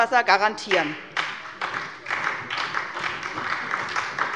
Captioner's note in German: Beifall bei der SPD